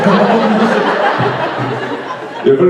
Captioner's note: audience laughs